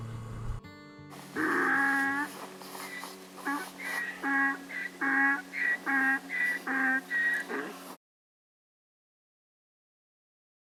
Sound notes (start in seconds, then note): 1.1 donkey sounds